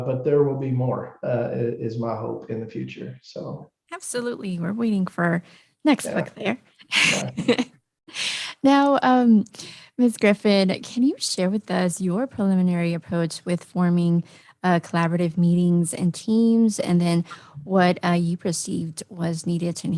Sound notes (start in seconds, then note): 6.9 laughs